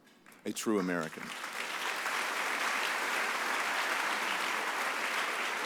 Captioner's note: audience applauds